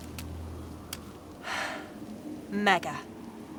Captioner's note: sighs